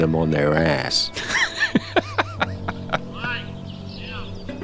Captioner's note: laughing